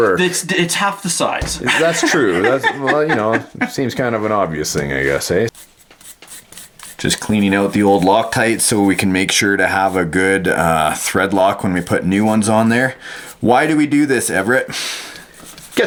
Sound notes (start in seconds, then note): 1.6 laughing; 5.5 bristles brushing